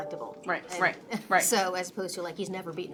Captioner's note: chuckles